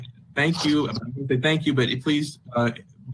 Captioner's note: distorted audio